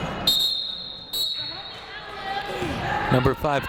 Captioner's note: whistle blows